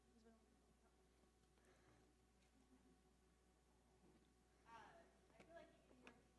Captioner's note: audience member speaking quietly